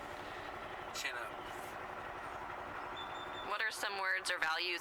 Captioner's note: bird chirping, sounds of traffic